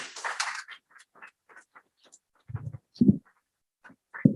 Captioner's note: applause